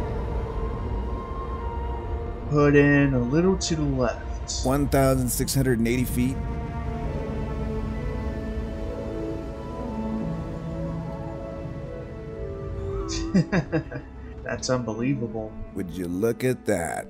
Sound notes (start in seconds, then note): 13.1 Dave and Neil chuckles